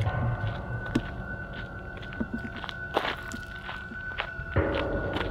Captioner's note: footsteps crunching; eerie music